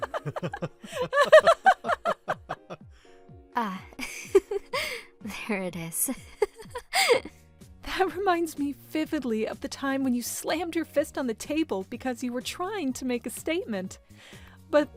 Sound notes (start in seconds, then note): 0.0 laughter; 4.1 soft laugh